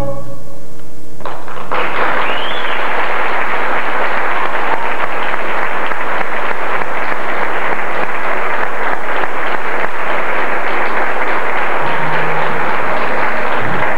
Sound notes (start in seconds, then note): 1.2 applause